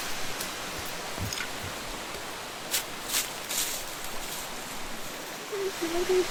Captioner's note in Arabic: خطوات على العشب